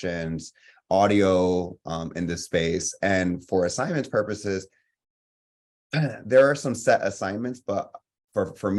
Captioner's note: coughs